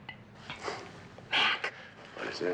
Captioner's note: whispering